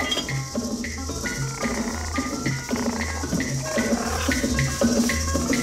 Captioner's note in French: ronronnements